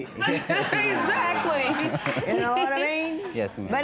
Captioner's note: laughter